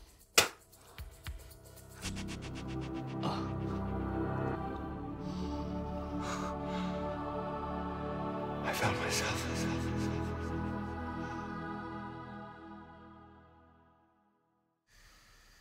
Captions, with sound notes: (euphoric music) - (whispering) I found myself.